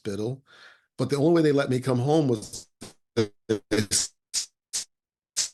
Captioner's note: audio breaks